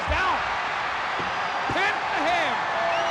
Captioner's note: crowd cheering